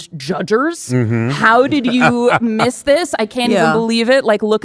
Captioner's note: laughing